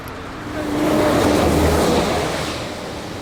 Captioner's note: truck roaring